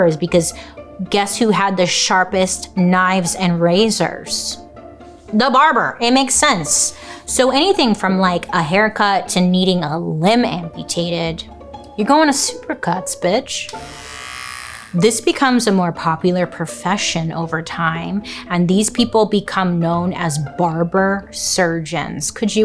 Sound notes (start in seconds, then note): 13.7 clippers buzzing